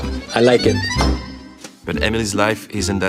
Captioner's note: desk bangs